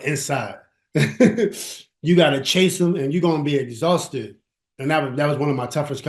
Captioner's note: laughs